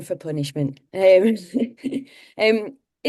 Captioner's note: chuckles